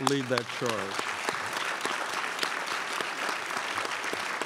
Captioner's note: crowd applauds